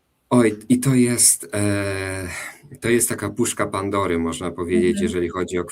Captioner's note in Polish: westchnienie